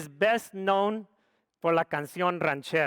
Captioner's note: speaks foreign language